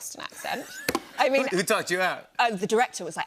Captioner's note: laughs